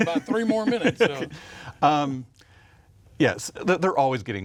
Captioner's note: chuckles